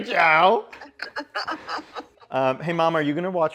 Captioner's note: mom laughing